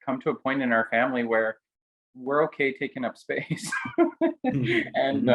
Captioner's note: laughs